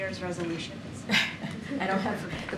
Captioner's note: laughter